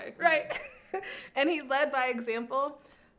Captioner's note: laughing